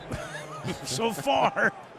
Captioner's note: laughs